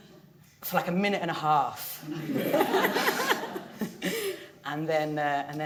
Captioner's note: audience laughing